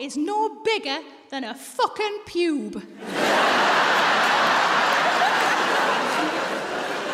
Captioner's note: audience laughs